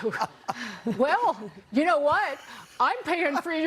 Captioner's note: laughter